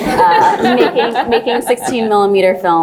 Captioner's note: laugh